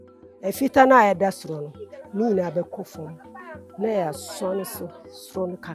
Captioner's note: speaking foreign language